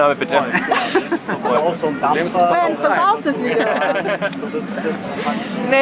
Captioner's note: laughter